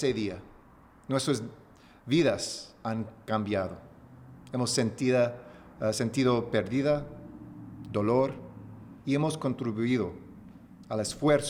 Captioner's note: remarks in spanish; speaking spanish